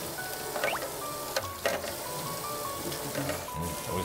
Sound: steam rising

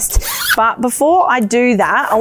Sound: zipper sliding

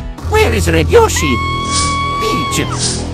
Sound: Peach screams

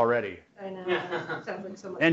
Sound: laugh

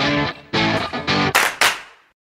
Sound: rock music; clapping

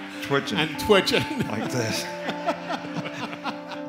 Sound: laughter

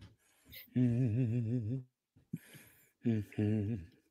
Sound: Appa humming

